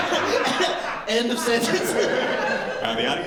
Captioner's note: laughter